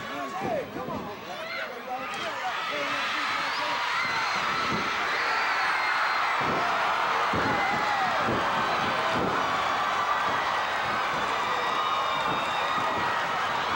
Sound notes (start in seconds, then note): 1.6 audience cheering; 7.1 floor banging